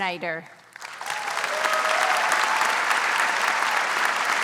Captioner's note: audience applauds